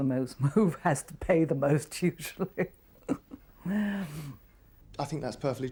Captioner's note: laughs